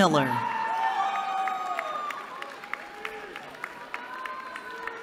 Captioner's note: cheering